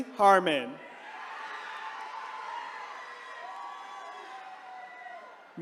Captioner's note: attendees cheering